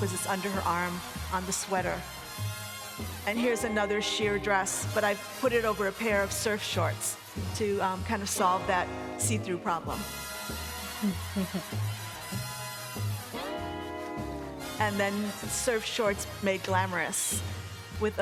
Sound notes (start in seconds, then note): 11.0 Paulina chuckles